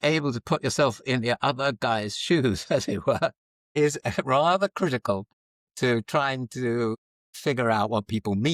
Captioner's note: laughs